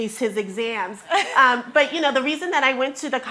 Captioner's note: chuckles